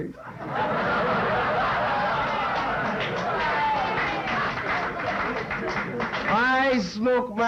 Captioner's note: laughter